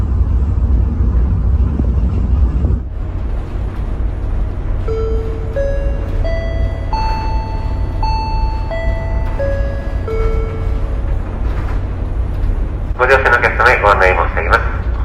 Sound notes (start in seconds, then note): 4.8 sound of chime before announcement